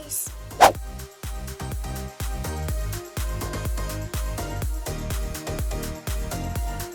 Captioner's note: upbeat music; slide whooshing